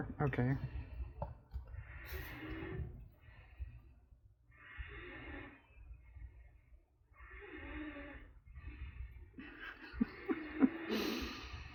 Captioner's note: laughs